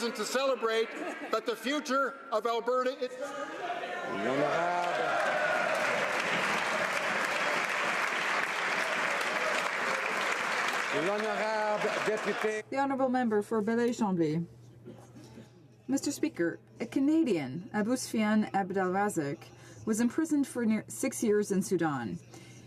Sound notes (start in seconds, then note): 9.1 some Applause